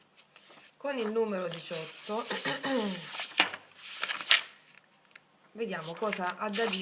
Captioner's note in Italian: schiarire la voce